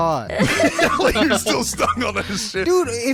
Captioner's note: laughing